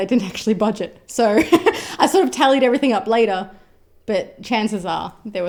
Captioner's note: laughs